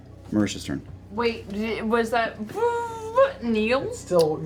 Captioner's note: whirring sounds